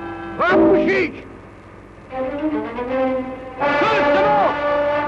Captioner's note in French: langue étrangère